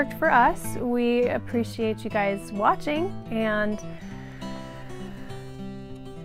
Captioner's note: laugh